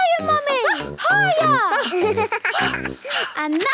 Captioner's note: giggles; panting